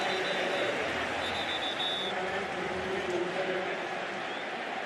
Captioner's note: whistle